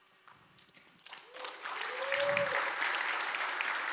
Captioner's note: applause